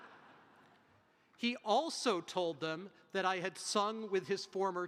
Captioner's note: audience chuckles